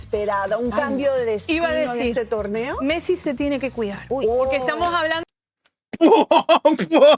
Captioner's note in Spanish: risas